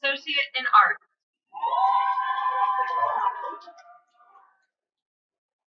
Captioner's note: cheering